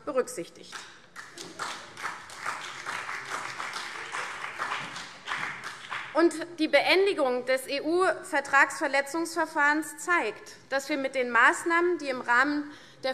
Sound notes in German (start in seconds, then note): 1.1 Beifall CDU und BÜNDNIS 90/DIE GRÜNEN